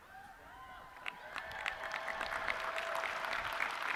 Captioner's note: audience cheering